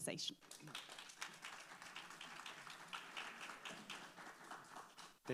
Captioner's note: audience applauds